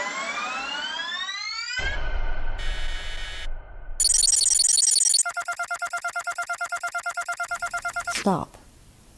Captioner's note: tech noises